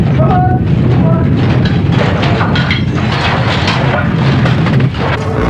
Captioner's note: rumbling